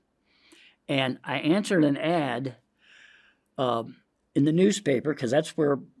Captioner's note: inhales